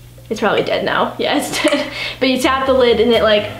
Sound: laughs

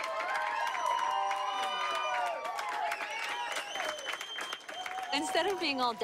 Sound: clapping and cheering

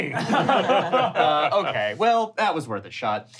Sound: laughing

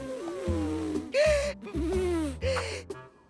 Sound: blowing

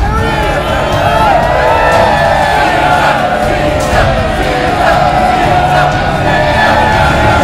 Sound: cheering

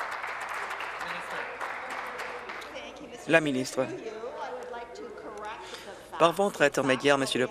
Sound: applause

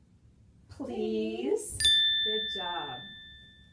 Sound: bell rings

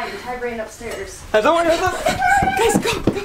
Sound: screaming

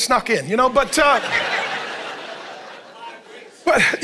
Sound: congregation laughing

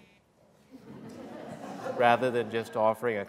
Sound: laughter

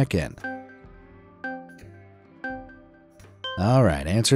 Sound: countdown beeping

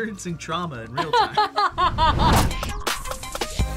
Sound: laughs

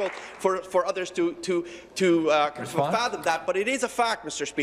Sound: applause

